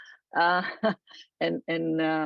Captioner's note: laughs